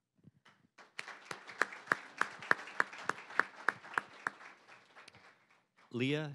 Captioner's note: applause